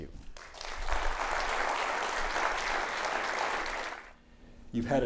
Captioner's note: audience clapping